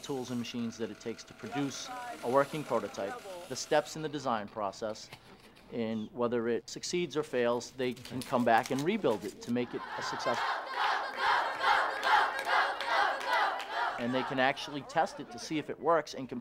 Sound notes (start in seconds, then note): 12.3 chants